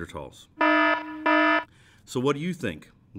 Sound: warning alarm sounds

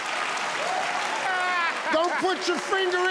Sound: crowd cheering

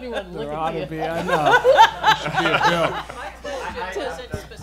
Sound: laughing

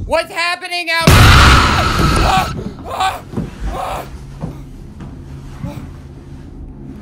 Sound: ominous music; Frank screaming

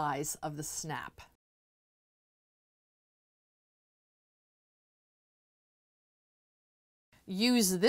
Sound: no Sound Present

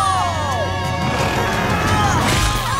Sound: grunting

